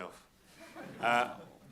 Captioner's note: audience chuckling